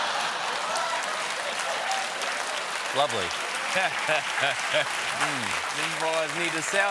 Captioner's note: applause; laughter